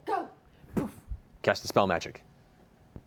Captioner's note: poof